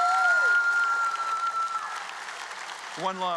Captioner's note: applause